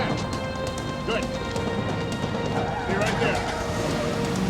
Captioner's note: car screeches; dramatic music